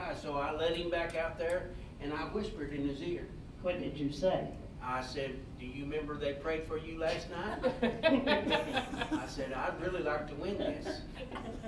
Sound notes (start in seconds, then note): 7.3 all laughing